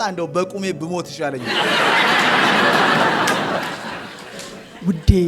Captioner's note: laughter